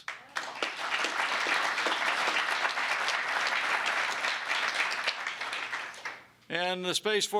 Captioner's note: applause